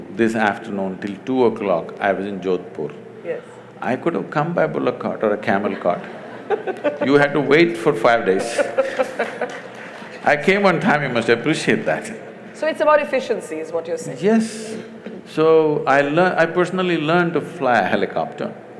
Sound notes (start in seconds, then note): 5.6 laughter; 8.2 laughter/Applause; 12.0 laughs